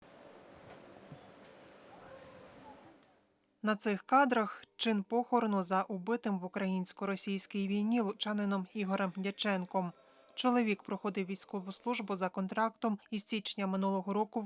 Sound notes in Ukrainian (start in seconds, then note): 0.0 Голоси людей